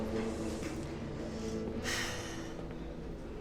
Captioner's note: sigh